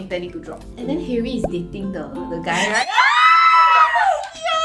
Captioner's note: screaming